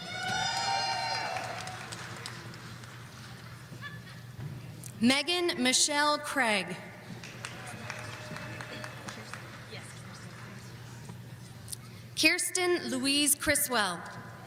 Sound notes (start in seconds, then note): 0.0 audience cheering